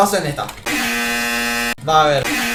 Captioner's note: buzzer.mp3